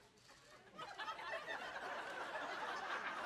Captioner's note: laughter